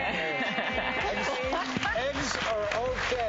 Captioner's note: applause